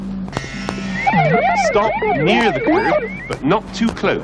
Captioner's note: alarm